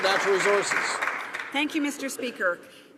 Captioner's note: some Applause